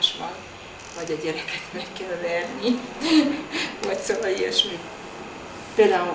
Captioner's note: laughs